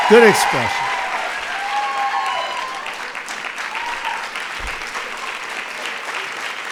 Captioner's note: applause